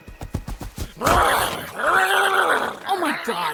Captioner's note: growling